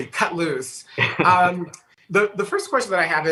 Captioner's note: laughs